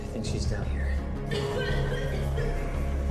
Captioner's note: tosse